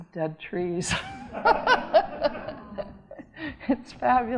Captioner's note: audience laughing